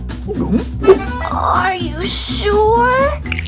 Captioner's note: swoop